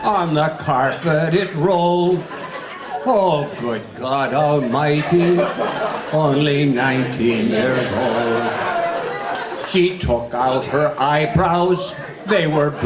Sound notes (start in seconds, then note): 8.6 audience laughing